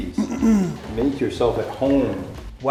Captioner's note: clears throat